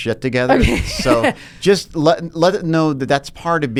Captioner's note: laughs